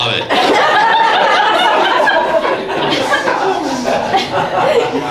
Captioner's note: audience laughs